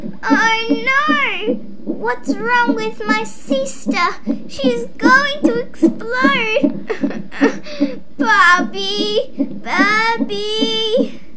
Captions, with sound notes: Oh no! What's wrong with my sister! She's going to explode! (Sob, sob) Barbie... Barbie!!